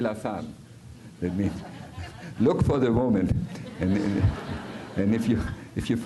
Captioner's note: audiencia riéndose